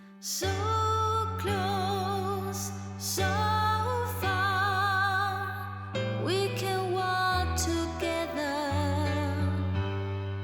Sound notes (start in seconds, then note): none